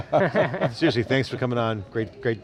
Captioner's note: laughing